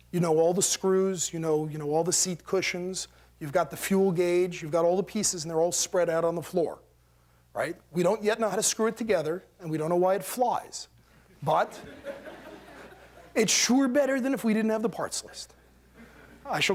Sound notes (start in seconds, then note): 11.6 laughter